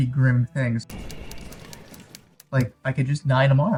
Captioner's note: film clicking